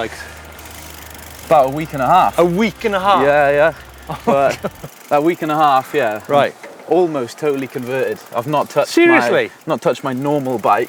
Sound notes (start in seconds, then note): 3.1 laughs